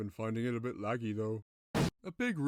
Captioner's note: explosion